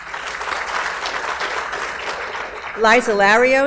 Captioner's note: audience applauds